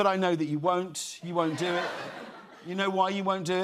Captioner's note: laughter